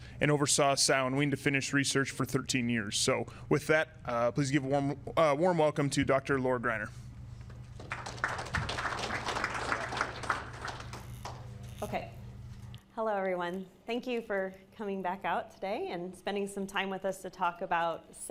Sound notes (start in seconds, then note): 7.6 audience applauding